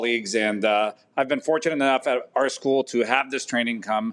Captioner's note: none